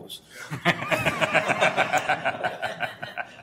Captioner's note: laughter